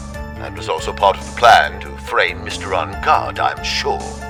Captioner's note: none